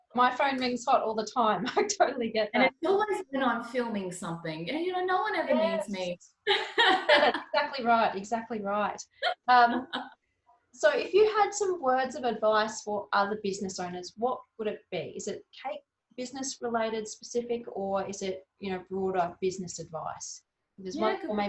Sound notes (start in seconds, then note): 6.5 both laughing